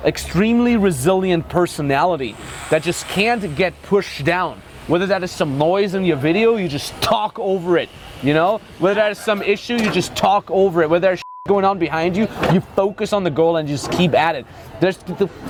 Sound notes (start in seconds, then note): 11.2 beep